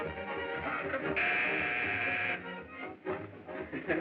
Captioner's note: buzzing